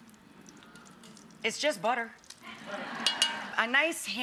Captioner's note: audience laughs